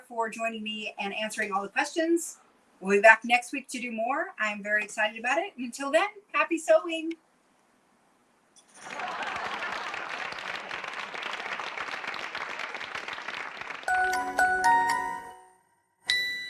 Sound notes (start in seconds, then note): 12.8 applause